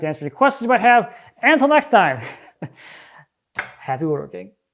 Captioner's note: chuckles